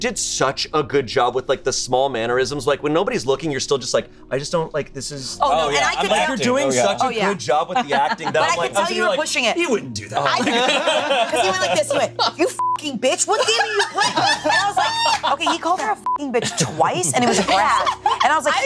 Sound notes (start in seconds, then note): 5.5 group talking; 10.0 group laughing; 12.6 beep; 13.1 group laughing; 16.0 beep